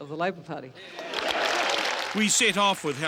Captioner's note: applause